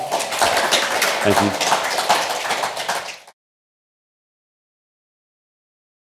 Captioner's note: audience clapping